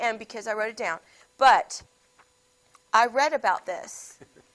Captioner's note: laughs